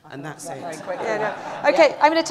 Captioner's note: laughter